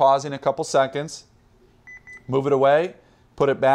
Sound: two beeps

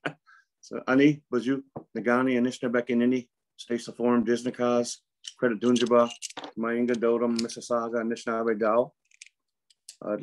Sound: Speaking in Anishinaabemowin

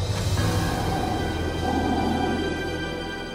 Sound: breathing through helmet

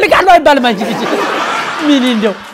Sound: laughter

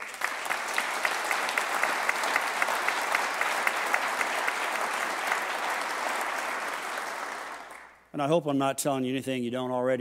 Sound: applause

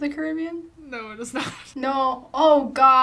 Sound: laughs

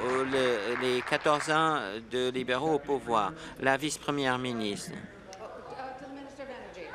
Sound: applause

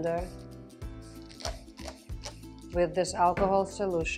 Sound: spritzing

